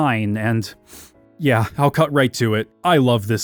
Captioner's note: sniffles